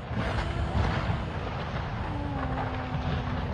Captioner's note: onlooker gasping